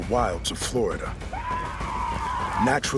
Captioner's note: seminole war cries